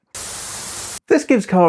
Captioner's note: static burst